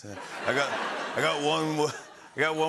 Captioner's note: laughter; changes accent